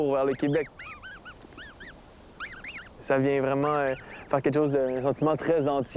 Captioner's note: gosling chirps